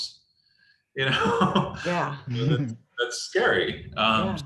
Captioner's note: laughs